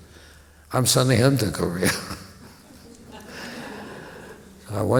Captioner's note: laughter